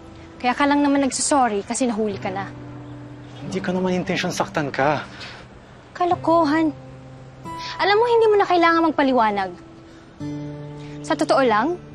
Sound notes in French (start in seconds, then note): 4.9 scoffs